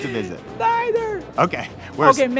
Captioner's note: laughs